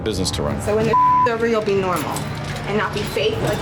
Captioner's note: beep